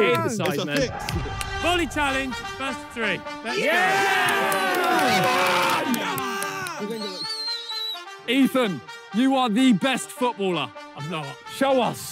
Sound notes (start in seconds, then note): 3.4 players cheer; 6.9 player squeaks